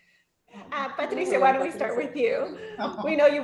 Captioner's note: women chattering